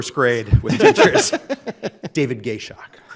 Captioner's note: Chief Justice Budd laughing